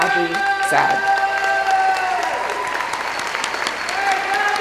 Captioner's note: cheering